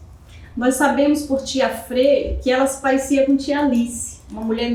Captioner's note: speaking portuguese